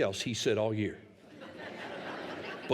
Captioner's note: laughter